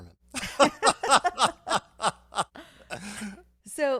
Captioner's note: laughing